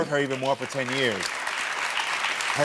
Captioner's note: audience applauding